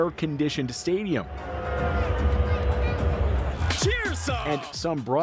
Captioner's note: cheers and Applause